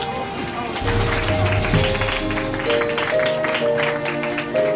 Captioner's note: group applauding; hopeful orchestral music